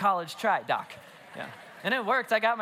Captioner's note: congregation laughs